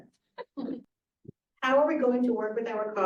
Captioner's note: everyone giggling